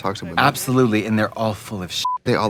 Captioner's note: beeping